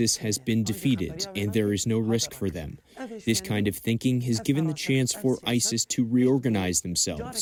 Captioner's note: speaking another language